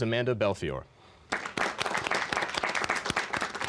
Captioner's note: applause